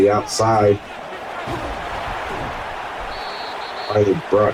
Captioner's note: crowd cheering